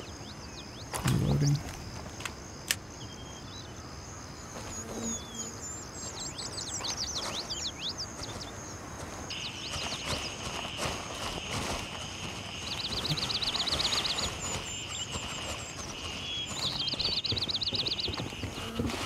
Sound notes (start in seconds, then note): 5.8 birds chirping